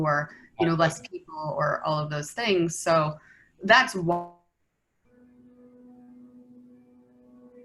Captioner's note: internet cuts out